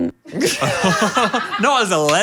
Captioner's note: group laughs